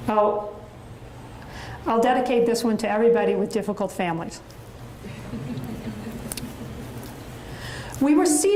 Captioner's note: audience chuckles